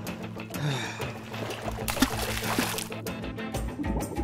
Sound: sigh

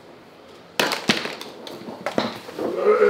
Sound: clatters; groans

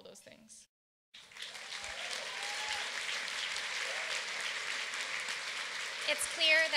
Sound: applause

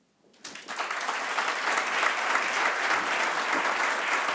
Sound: applause

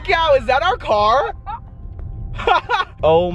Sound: laughing

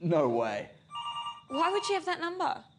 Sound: phone ringing

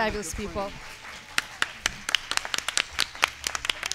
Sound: applause

